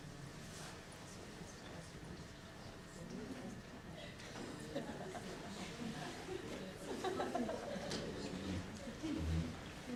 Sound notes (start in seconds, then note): 1.1 softly talking at tables